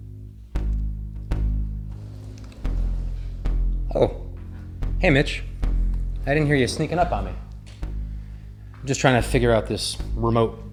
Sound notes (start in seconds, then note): 1.8 door slides